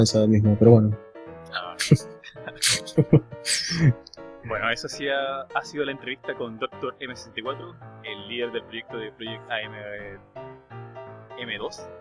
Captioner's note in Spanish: risas